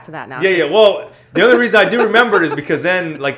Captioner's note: laughter